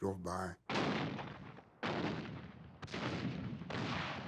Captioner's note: artillery fire